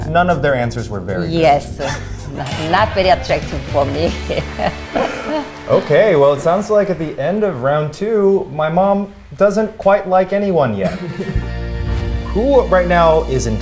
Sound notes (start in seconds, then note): 5.1 audience claps; 10.8 upbeat music